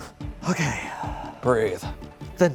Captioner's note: exhales